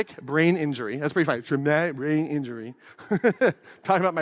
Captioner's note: laughs